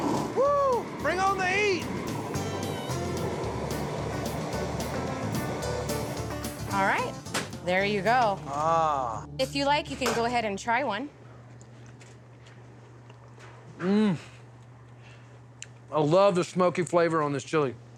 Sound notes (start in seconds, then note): 1.4 whooshing sound